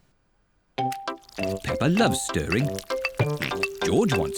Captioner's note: oinks